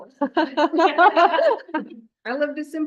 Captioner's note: laughter